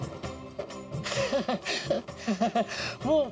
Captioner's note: chuckles